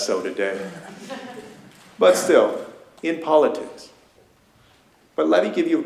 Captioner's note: laughter